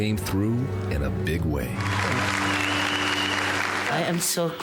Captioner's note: applause